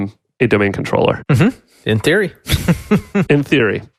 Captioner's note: laughs